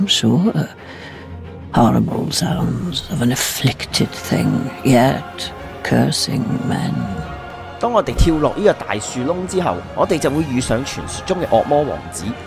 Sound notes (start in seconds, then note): 1.4 horrible sounds, of an afflicted thing yet cursing men